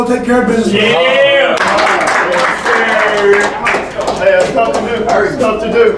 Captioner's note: cheering and clapping